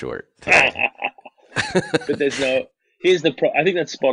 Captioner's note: both laugh